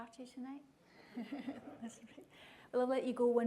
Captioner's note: laughter